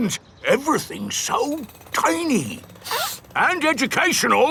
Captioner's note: sniffs